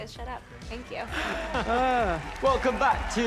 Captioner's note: both chuckles